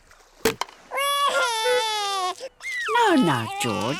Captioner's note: wailing